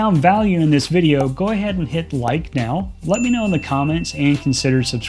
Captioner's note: bell dinging